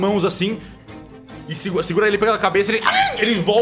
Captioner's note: cry